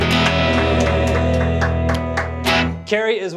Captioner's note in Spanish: aplauso; rasgueo de guitarra